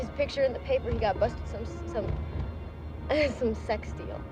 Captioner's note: stammering